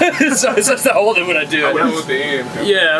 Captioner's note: laughing